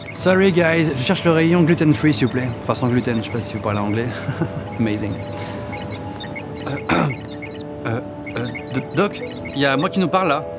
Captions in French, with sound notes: Sorry guys, je cherche le rayon gluten-free s'il vous plaît ! Enfin, sans gluten. Je sais pas si vous parlez anglais. *rire d'hipster* Amazing ! *toux* Euh, euh, Doc', y a moi qui nous parle là.